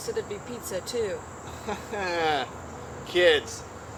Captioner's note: laughter